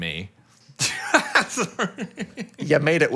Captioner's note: laughs